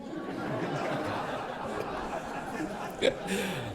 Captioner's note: audience laughs